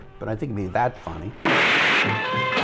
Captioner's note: gun bangs; bright playful music